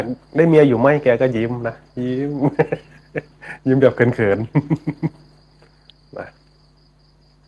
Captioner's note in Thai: เสียงหัวเราะ; เสียงหัวเราะ